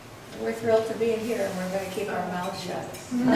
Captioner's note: voiceover